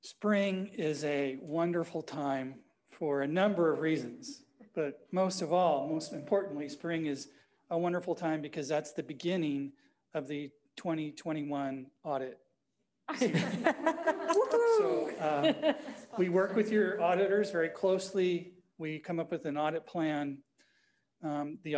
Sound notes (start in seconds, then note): 13.1 all laughing